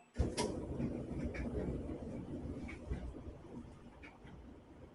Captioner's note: dryer humming quietly